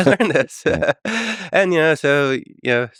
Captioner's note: Tim and Lex laughing